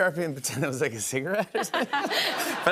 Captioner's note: laughter